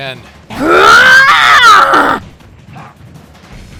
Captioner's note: angry roar